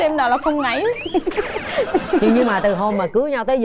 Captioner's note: laughing